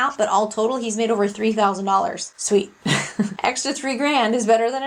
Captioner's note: laughs